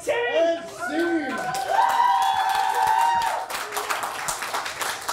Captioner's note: audience cheers